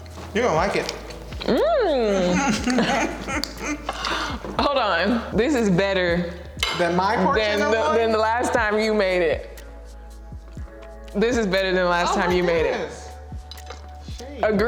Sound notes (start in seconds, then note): 1.8 both laughing